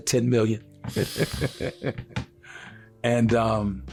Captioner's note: chuckling